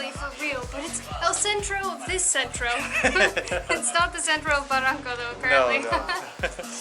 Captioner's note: giggles